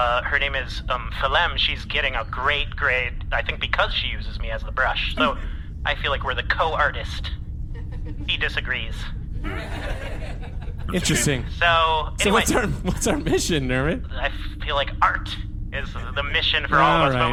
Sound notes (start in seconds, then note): 9.4 audience laughter